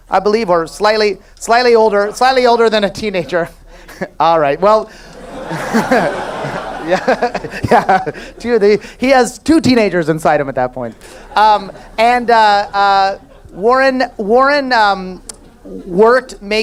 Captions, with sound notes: I believe slightly older than a teenager. All right, well. (laughs) He has two teenagers inside of him that point. And Warren worked making Tabletop games